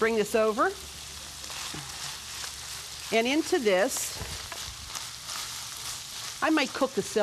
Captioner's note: sizzling